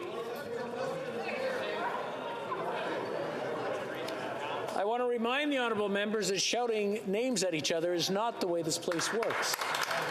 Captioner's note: yelling